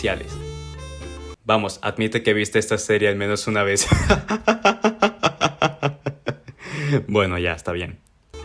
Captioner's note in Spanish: risas